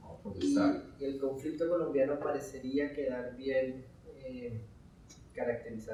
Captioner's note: speaking in Spanish